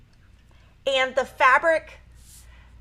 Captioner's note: talks faintly